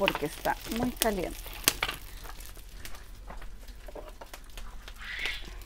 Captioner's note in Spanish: fuego crepitante